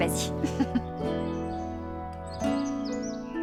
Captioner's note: birds chirping